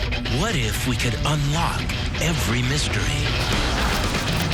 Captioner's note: voiceover